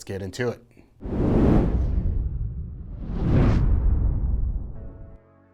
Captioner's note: logo whooshing